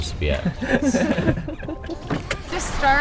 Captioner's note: laughing